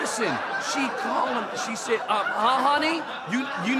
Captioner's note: audience laughing